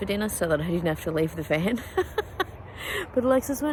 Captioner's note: laughs